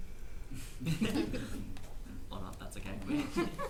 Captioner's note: panellists chuckle